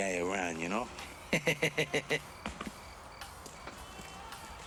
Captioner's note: laughs